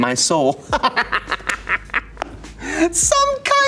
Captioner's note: Elijah laughs